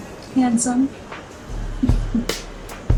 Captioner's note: chuckling